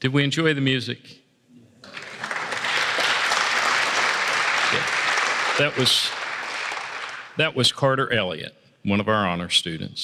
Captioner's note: applause